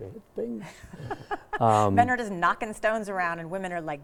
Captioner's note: laughs